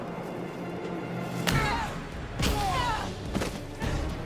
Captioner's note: screaming